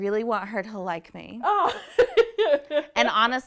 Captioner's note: laughing